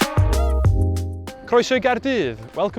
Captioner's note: Welsh